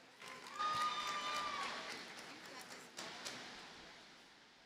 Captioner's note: audience cheers and applauds